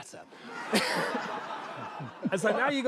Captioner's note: laughter